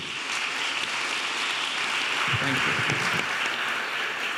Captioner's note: audience applauding